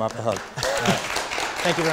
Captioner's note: audience clapping